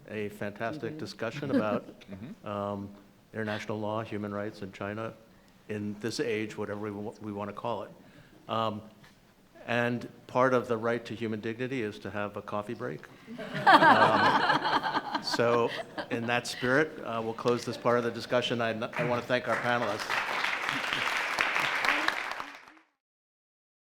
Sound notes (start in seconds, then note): 13.2 all laughing; 21.7 audience applause